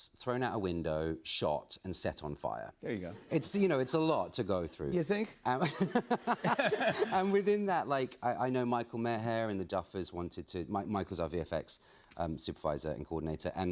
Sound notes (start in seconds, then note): 5.6 laughter